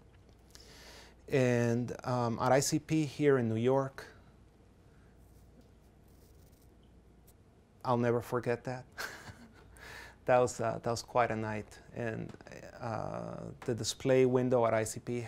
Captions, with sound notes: and at ICP here in New York. I'll never forget that. (laughs softly) That was quite a night and the display window at ICP